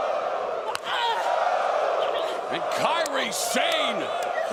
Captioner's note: crowd cheering